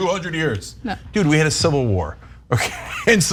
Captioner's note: laugh